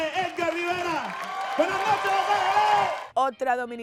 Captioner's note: audience clapping and cheering; speaking Spanish